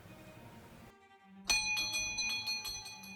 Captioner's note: doorbell rings